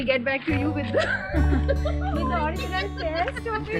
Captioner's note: laugh